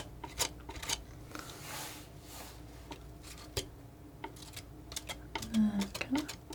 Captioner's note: scissors snipping